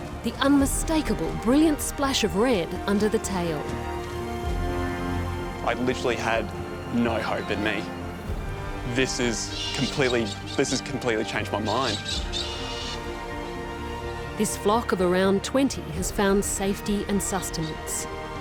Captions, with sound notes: The unmistakable, brilliant splash of red under the tail. I literally had no hope in me. This is completely... this has completely changed my mind. (COCKATOOS SQUAWK) This flock of around 20 has found safety and sustenance.